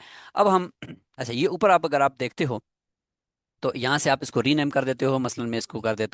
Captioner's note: throat clearing sound